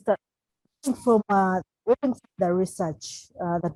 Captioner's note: crackling drown out speaker